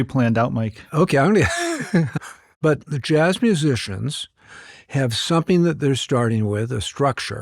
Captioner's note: laughs